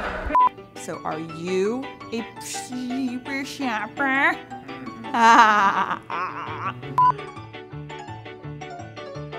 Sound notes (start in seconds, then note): 4.4 laughing